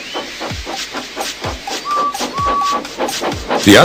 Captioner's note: edward's whistle